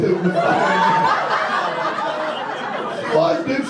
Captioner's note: audience laughter